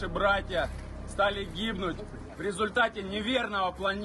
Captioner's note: speaking Alternate Language